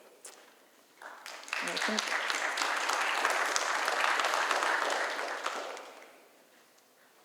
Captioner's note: applause